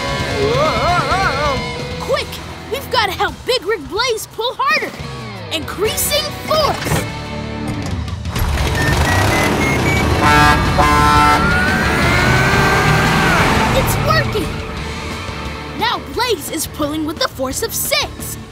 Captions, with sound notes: Whoa! Quick, we've got to help Big Rig Blaze pull harder! Increasing force! [truck horn honking] It's working! Now Blaze is pulling with the force of six,